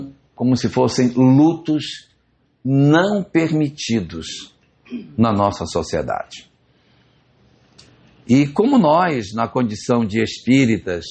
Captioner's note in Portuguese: limpando a garganta